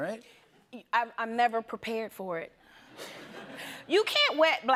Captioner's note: laughter